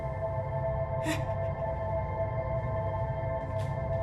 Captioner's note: whimper